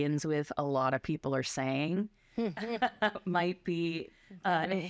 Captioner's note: laughter